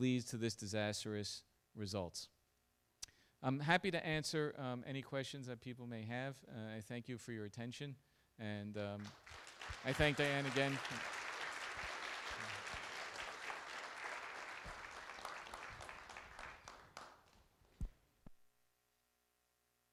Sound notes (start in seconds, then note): 11.2 applause